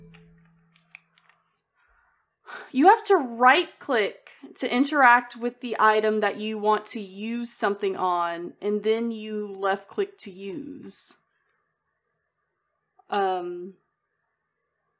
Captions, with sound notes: [Huff] You have to right-click to interact with the item that you want to use something on. And then you left-click to use. Umm...